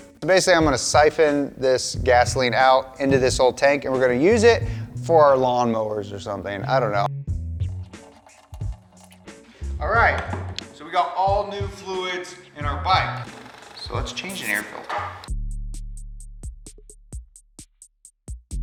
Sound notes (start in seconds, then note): 7.6 gasoline plinking; 15.8 moderate music